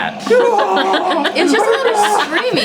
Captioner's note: imitates screaming